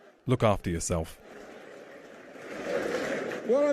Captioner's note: crowd laughting